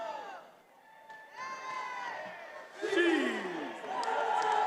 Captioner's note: attendees cheering